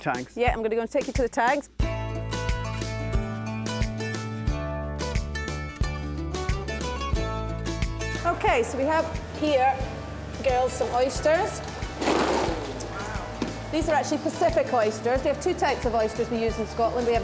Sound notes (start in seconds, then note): 1.8 cheerful guitar music; 11.8 shells clattering